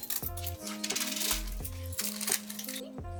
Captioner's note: counting coins